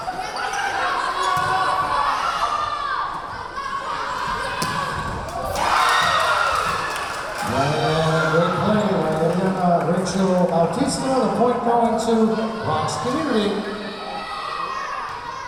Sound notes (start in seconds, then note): 5.7 clapping; 6.5 cheering; 15.2 yelling